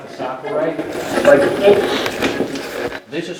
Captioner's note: radio voices